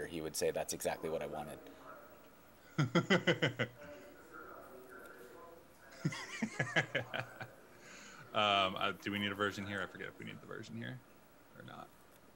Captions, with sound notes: he would say that's exactly what I wanted. (laughing) - Do we need a version here? I forget if we need the version here or not.